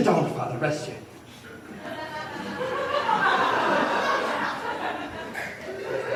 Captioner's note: laughter